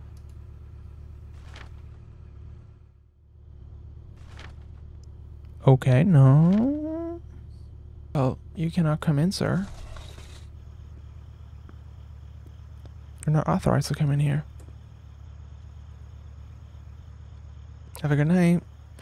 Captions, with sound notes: (pages flipping) Okay, no. You cannot come in, sir. (door opens) You're not authorized to come in here. (crickets) Have a good night.